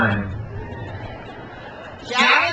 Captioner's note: crowd cheers